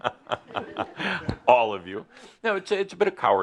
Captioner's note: Adamus chuckles